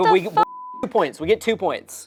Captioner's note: beep